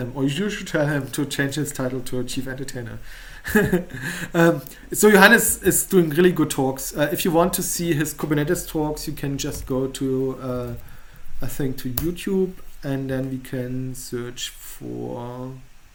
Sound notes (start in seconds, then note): 3.4 chuckles lightly